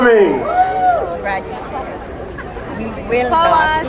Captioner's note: crowd cheering